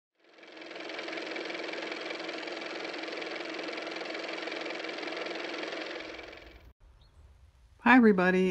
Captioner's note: car motor